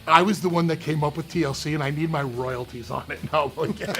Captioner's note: laugh